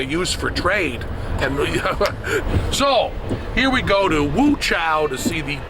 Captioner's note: laughs